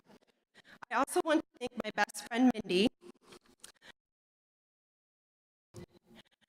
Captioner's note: audio cuts out